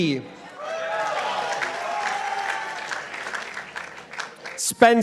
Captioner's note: participants applauding